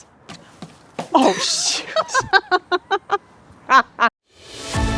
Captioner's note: both laughing; exciting music